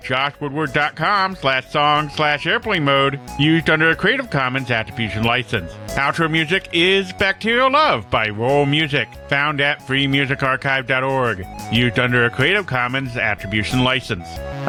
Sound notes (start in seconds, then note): none